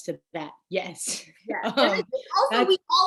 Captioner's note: laughing